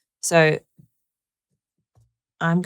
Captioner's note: none